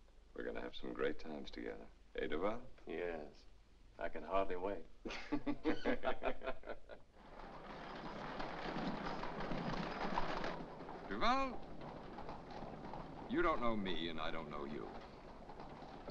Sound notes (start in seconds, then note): 5.0 both laugh; 7.1 carriage rattles